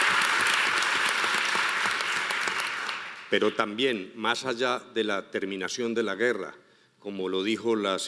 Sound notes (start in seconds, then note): 3.6 speaking in foreign language